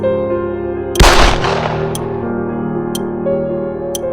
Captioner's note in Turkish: Silah sesi